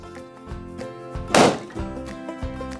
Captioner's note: balloon pops